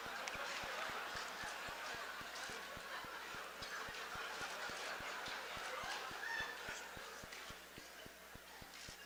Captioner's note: laughter